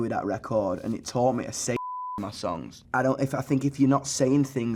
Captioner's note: beep